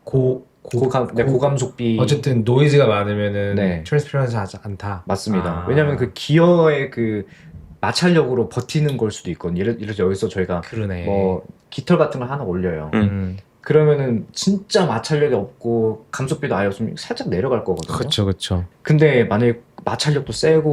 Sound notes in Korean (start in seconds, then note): none